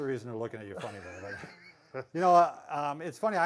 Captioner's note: laughs